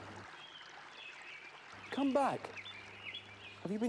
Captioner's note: birds chirping